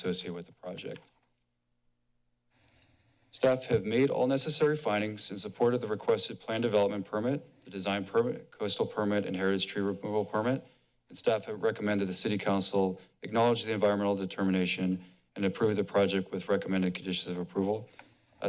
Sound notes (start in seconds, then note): none